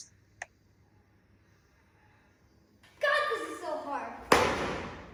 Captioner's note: slams book